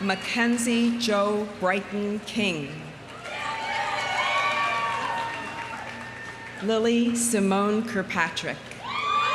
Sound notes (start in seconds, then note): 3.1 audience cheering; 3.1 audience applauding